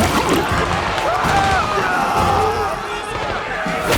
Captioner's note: soldiers screaming; gunshots popping